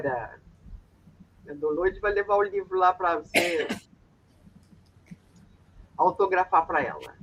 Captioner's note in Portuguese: limpando a garganta